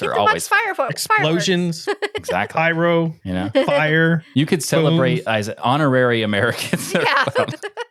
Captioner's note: laughing